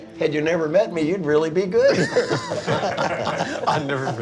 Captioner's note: laughing